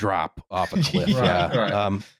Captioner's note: laughs